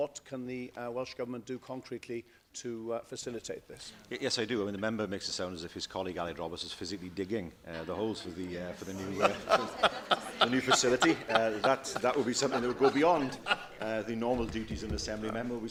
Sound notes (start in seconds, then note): 9.0 laughter